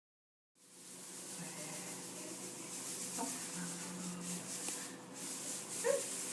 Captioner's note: rustling sound